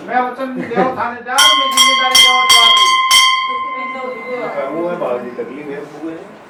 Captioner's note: clanging sound